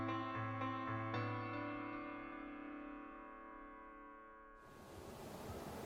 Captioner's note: waves rocking softly